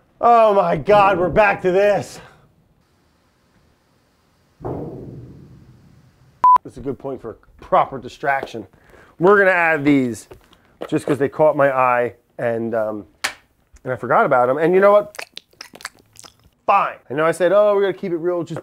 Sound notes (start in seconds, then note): 4.6 head bangs on vent hood